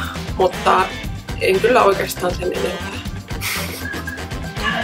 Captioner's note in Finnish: hymähdys